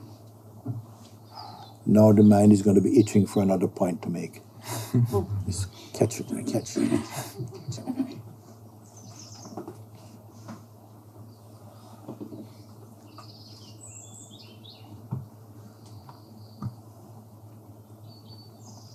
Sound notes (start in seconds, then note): 6.7 laughter; 9.5 silence